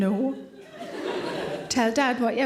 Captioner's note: audience laughing